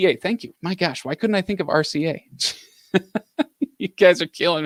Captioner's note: laughs